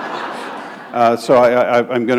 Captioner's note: laughter